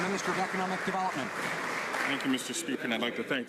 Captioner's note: some Applause